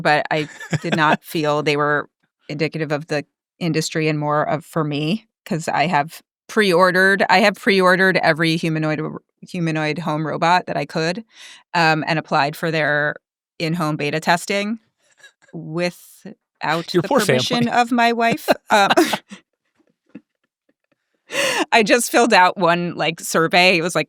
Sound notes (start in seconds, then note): 20.5 laughs